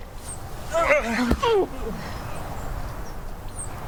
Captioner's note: grunting